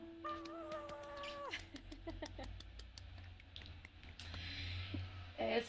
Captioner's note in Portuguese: aplausos